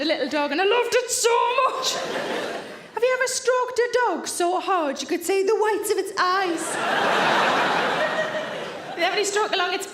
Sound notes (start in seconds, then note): 6.6 audience laughing